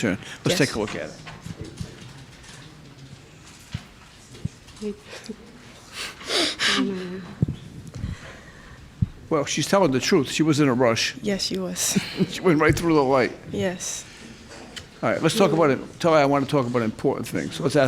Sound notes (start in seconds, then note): 6.3 laughing; 12.0 chuckles